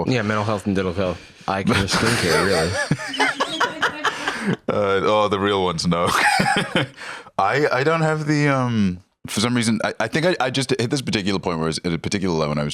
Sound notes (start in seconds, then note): 1.7 others laughing; 6.5 laughs